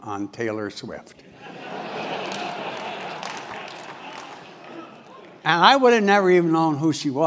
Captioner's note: laugh